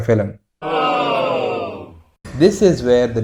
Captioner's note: cheering dies down